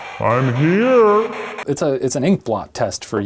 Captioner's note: faint tone